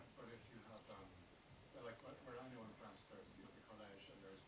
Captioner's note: faintly speaks